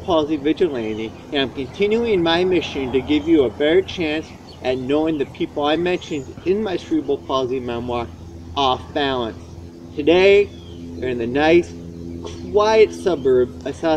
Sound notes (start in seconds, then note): 1.0 car drives; 8.4 humming from plane driving overhead